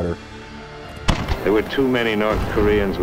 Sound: guns firing

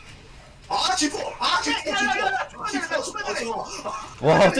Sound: speaking Korean

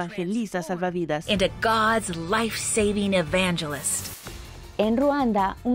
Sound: Diálogo en idioma extranjero

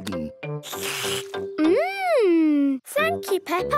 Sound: slurps

